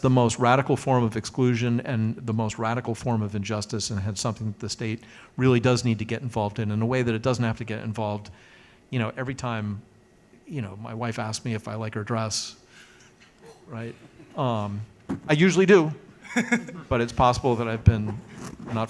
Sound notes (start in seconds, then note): 16.2 laughs